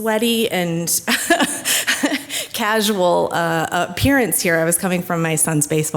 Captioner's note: laughs